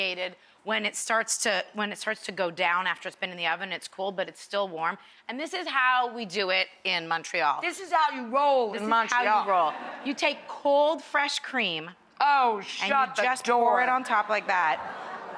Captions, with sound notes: when it starts to go down after it's been in the oven it's cooled but it's still warm. And this is how we do it in Montreal. This is how we roll in Montreal. This is how we roll. (laughing) You take cold fresh cream Oh, shut the door. And you just pour it on like that.